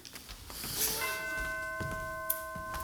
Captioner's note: chime